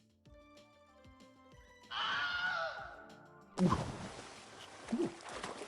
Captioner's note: screaming